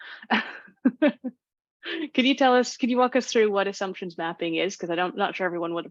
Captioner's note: laughs